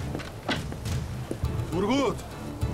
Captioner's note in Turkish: Kapı kapanma sesi